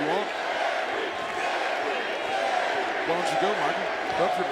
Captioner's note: crowd chants "Jerry"